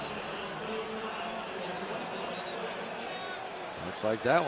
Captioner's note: pa announcement